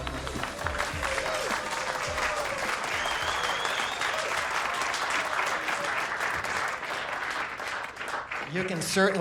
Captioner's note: applause and cheering